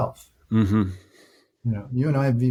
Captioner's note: humming in agreement